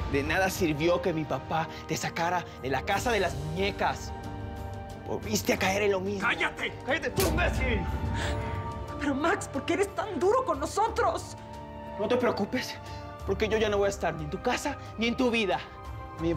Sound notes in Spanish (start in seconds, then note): 7.1 Golpes